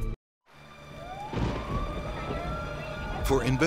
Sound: sirens blaring; dramatic music

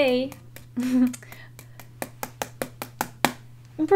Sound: soft laugh, tapping

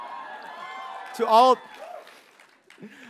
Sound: audience members cheer

